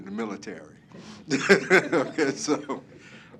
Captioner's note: laugh